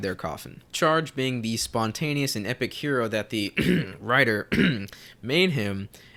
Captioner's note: cough